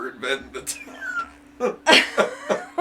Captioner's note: laughs